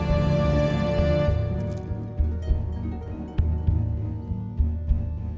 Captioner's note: Dracula hisses and Bites Neck